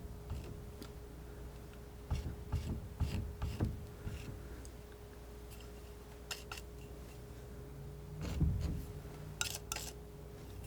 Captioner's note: scratching